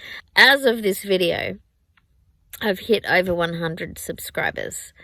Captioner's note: none